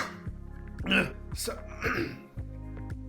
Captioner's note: clears throat